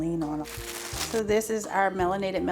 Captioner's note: plastic crinkling